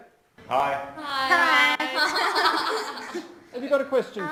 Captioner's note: students all saying hi and laughing